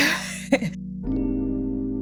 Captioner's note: laughs